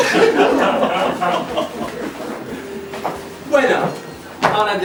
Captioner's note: laughs